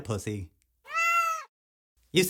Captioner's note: meow